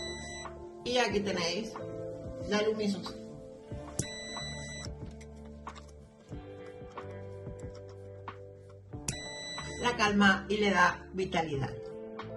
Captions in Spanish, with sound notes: ... y aquí tenéis la luzmino... (sonido: piiiiiii) (sonido: piiiiiii) ... la calma y le da vitalidad...